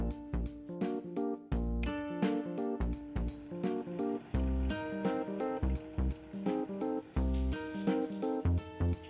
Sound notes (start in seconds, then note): 3.1 water begins to boil; 6.9 shower water spraying